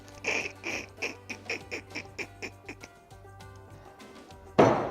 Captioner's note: giggling